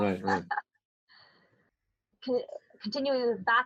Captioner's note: laughs